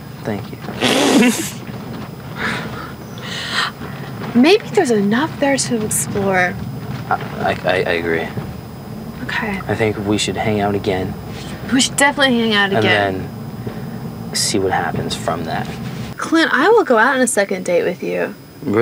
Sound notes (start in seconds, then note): 0.8 laughing